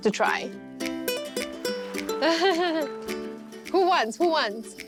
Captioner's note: laughs